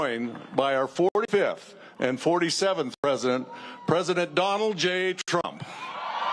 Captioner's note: cheers and applause